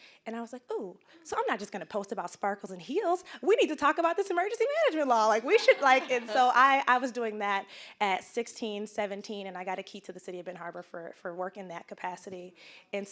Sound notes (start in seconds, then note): 5.4 audience laughing